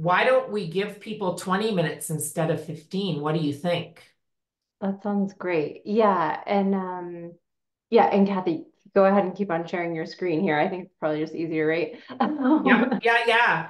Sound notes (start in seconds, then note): 12.1 chuckles